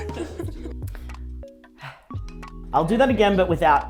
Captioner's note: laughing; exhales